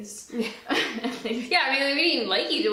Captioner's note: both laugh